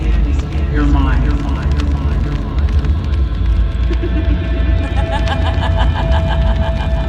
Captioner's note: laughing